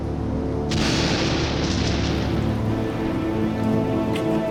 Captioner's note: thunder crashing